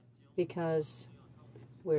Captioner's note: speaking french